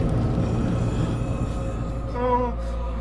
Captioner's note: creepy tingling continues